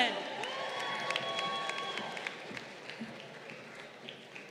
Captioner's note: crowd cheering